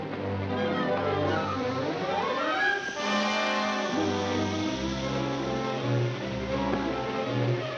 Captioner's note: dramatic music; fuse hissing; dramatic music